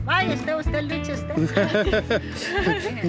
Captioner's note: laughing